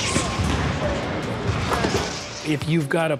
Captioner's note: ball swishing into net